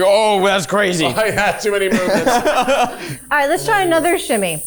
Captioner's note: chuckling